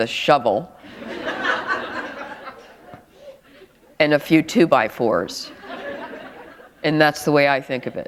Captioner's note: laughter